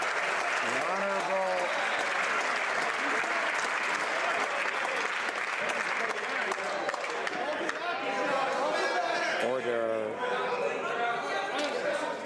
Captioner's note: some Applause